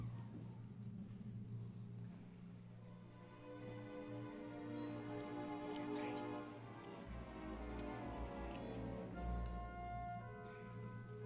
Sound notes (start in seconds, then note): none